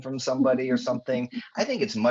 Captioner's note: chuckling